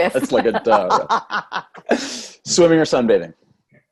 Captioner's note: laughs